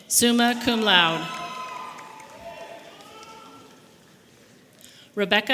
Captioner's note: audience applauding and cheering